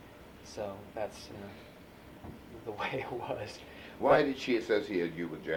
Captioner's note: laughs